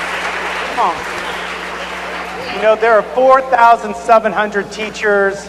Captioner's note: cheers and applause